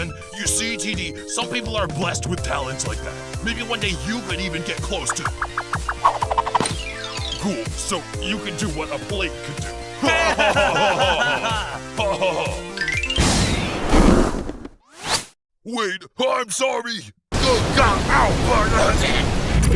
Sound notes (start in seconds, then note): 10.0 pen and eraser laugh; 11.9 eraser continues laughing